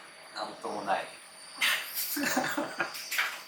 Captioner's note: laughs